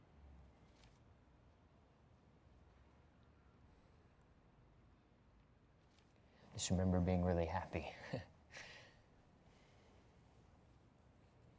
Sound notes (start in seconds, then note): 8.0 risas